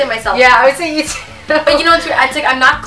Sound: laughs

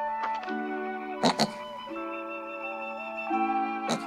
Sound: snorting

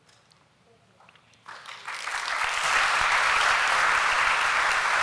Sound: applause

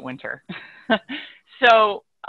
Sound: laughing

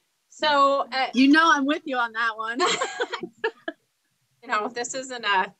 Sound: laughing

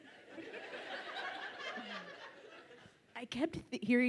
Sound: audience laughs

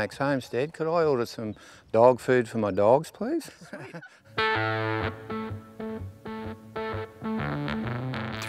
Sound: off-screen chuckles

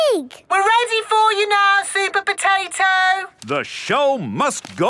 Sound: through megaphone

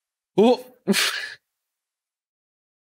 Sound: confusion and laughter

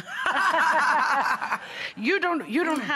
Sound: all laugh

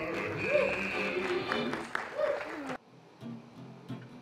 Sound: applause

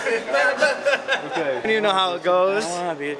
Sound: laughing

